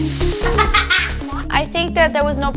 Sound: laughing

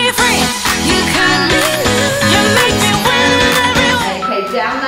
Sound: countdown timer beeping

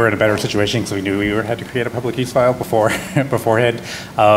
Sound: laughs

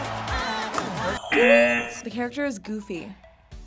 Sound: buzzer

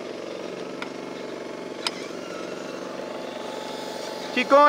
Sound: engines rumbling; clicking sound

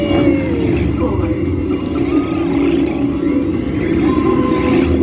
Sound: electronic beeping

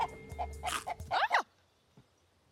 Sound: crunching

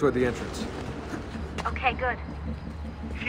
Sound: Lucy through radio; Shaun through radio

